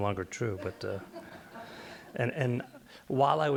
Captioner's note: light laughter